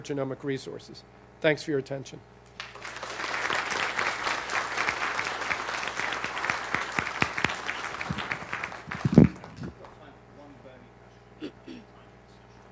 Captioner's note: applause